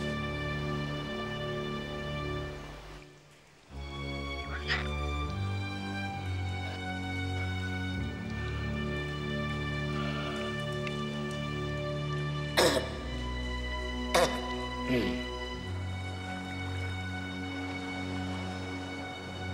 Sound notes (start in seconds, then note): 12.5 coughing